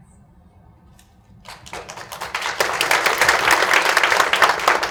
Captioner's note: audience claps